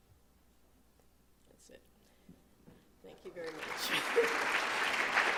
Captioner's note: applause